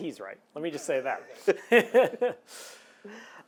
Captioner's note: laughs